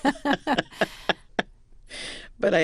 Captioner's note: laughter